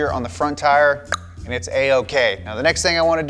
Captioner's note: tongue clicks